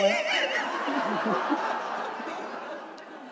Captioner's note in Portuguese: risos da plateia